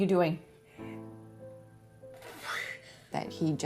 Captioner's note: panting